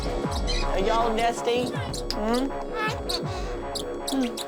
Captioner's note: birds tweeting